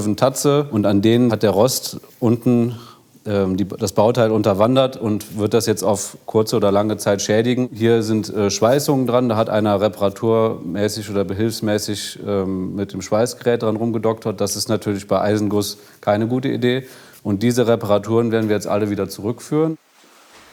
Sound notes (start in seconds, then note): none